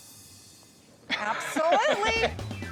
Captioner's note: laughs